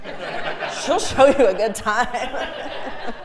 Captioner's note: laugh